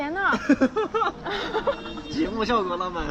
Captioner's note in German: laugh